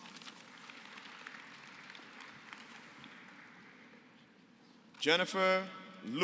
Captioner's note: applause